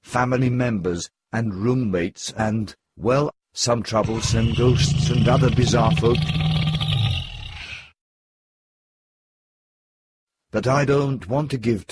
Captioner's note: GROWL! noise